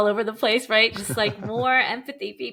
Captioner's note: chuckling